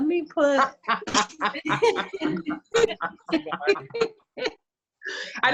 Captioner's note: laughs